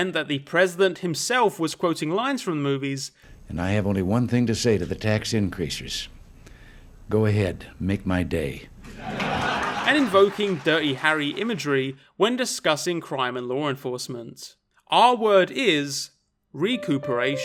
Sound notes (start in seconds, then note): 8.9 audience laughing